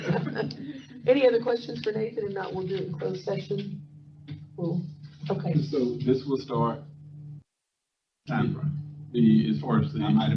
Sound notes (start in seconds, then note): 4.2 speaker off microphone